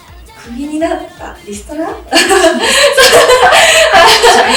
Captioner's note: laugh